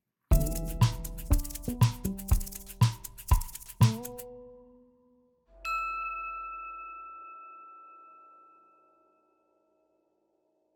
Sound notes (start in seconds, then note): 0.3 upbeat music; 5.6 logo dings